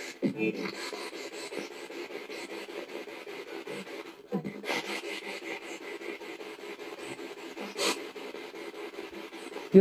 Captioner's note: radio noise from the spirit box